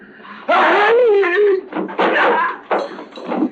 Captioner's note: Croydon groans